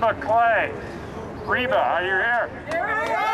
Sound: crowd cheers

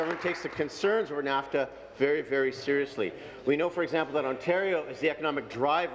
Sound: applause

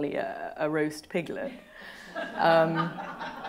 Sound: laughter

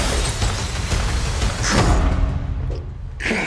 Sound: glass shatters; thuds

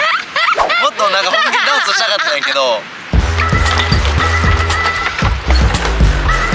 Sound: laughs

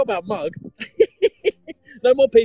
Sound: laughing

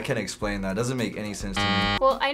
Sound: buzzer

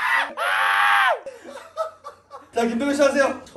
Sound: crying

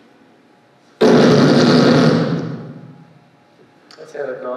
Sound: fart sound

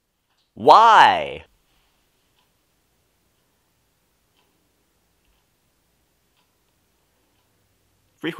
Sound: contemplative silence

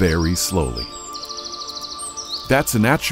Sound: birds chirping

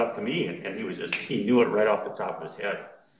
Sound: fingers snapping

